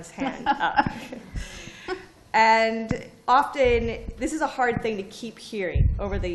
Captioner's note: laughter